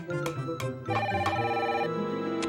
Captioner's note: phone ringing